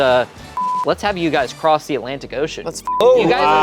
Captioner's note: beep